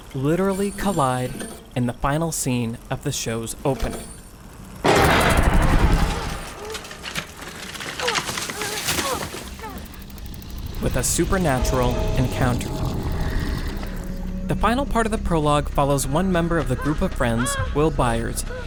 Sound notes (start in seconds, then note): 4.8 banging; 8.0 grunting; 12.8 roaring